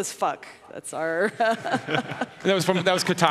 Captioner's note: laughing